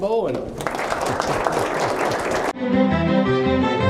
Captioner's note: applause